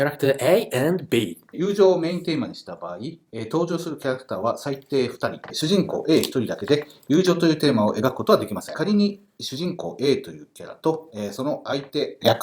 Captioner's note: speaking Japanese